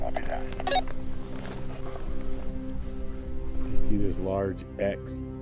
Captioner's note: radio chirps